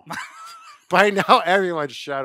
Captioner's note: laughs